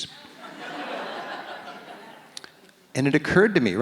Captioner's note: audience laughs